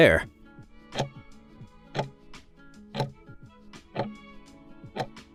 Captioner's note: timer ticking